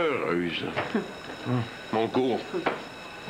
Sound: La cloche sonne

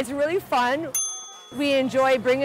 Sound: bell rings

